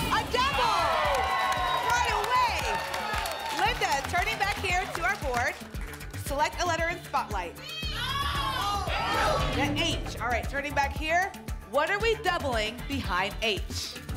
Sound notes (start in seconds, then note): 7.9 audience shouting letters